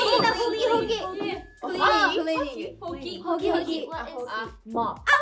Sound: speaking Korean

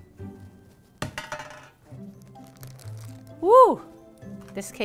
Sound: pan thudding

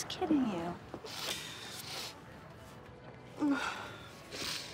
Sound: sniffling

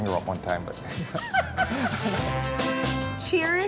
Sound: laughing

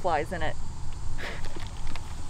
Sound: chuckles

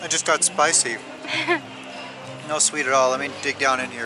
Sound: laughter

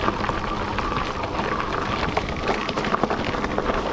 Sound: tire rumbling

